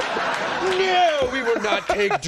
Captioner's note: everyone laughing